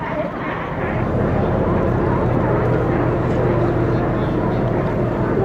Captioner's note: sounds of sea lions mixed with rumbling ferry engine noise